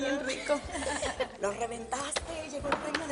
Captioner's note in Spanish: Risas